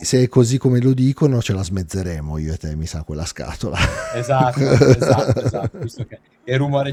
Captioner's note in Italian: risate